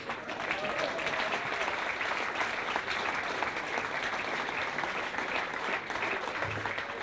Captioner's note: applause